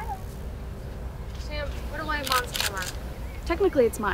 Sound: camera shutter closes

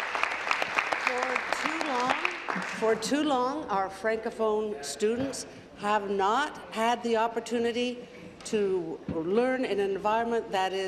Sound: applause

